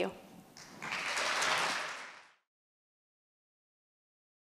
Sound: clapping

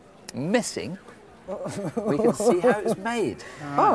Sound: couple laughing

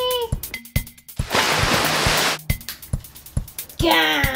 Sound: splash

